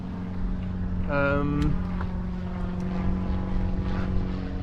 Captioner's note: plane flying